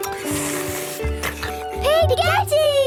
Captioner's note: slurping